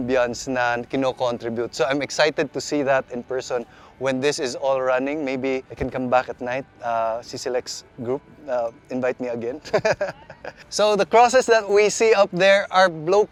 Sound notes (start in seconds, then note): 9.6 laughs